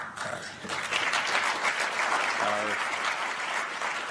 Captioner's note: applause